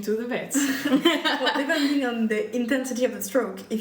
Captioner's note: laughter